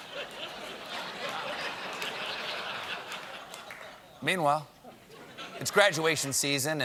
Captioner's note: laughter